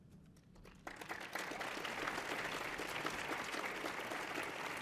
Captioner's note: audience applauding